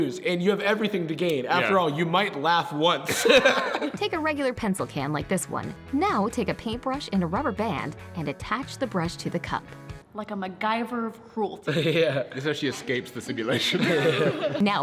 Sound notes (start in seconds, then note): 11.7 chuckles